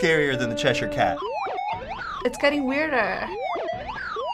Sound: high-pitched blipping

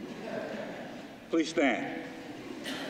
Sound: laughter

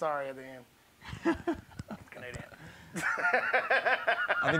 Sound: laughs

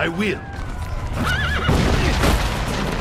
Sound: horse neigh

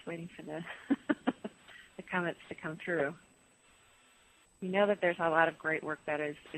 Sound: laughs

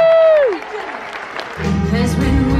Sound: audience claps

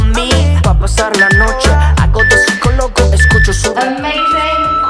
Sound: timer beeping

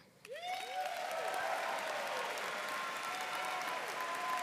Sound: audience cheering

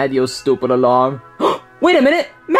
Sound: Luigi gasping

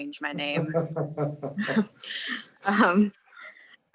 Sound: laughing

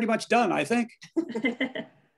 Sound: laughter

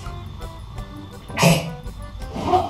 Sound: sneezes

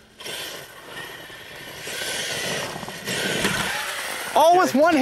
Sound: RC truck wheels spinning

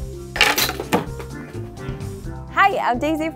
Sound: ball crashes

